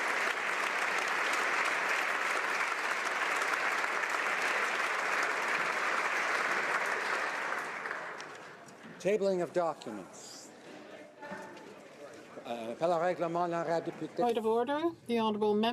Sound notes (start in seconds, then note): 2.6 applause